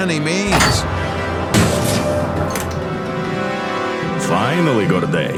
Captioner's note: doors clang; dramatic music